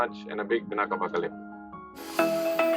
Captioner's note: non-english speech